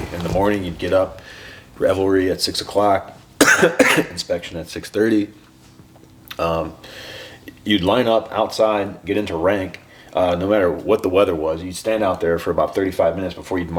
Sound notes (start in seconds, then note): 3.4 coughs